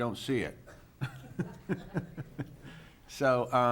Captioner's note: chuckling